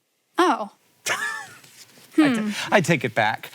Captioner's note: Hank laughs